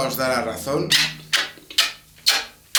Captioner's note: kisses